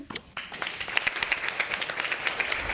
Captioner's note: applause